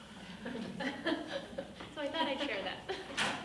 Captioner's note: group laughing